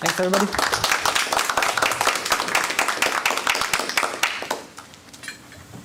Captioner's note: audience applauds